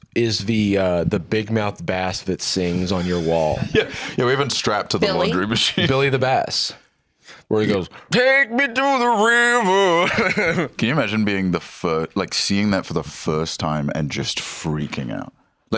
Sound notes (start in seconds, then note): 9.6 laughs